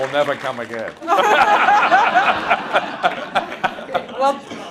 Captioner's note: laughs